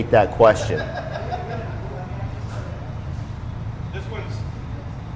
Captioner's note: laughing distantly